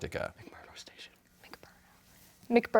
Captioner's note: whispering